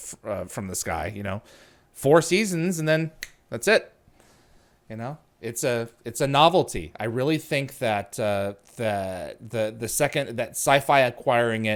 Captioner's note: clicks fingers